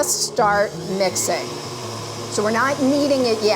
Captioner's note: mixer revving